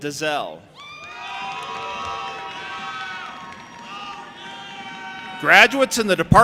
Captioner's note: audience applauding and cheering